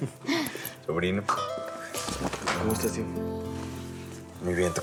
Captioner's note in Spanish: risas